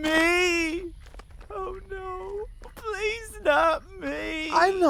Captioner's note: Howie crying